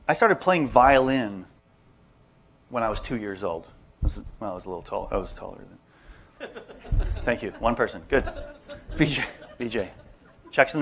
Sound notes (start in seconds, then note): 6.4 laugher; 10.5 laughter